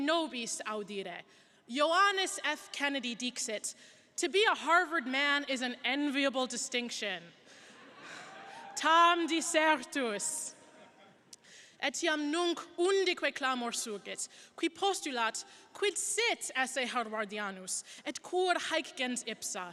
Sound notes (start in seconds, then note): 8.8 speaks in Latin